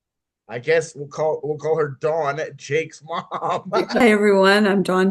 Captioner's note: laughs